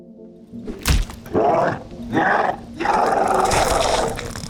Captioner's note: chomper snarling